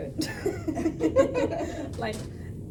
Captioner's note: all laughing